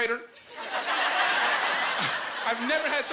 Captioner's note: laughing